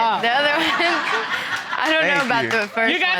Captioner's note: all laughing